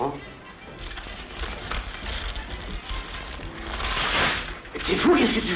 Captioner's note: paper Noise